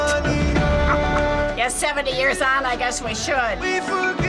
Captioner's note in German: kichert